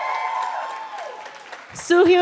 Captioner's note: cheering